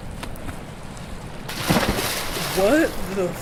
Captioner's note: splashing